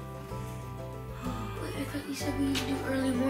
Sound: yawning

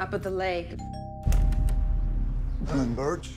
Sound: door bell

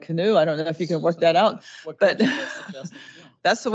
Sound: laughs

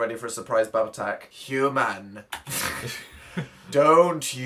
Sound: ominous voice; both snort; reads slowly and ominously

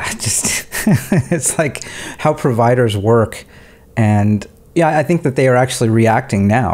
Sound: chuckling

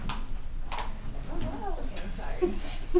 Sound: chatter; laughter

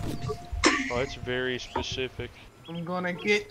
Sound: rugs giggling

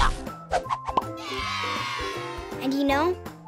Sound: cheering

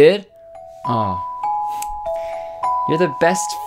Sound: twinkling Sound effect

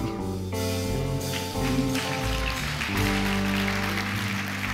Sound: audience applauds

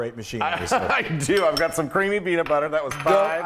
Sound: laugh

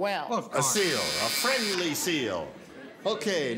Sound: buzzer sounds

